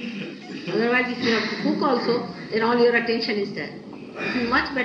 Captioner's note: laughter